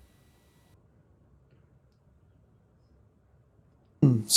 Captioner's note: coughs